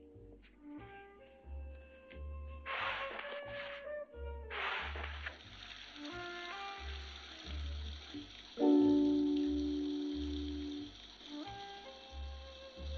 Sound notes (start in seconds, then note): 4.7 water running